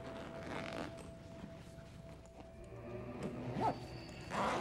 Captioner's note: zippers sliding